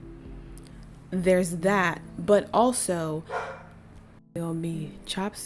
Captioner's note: bark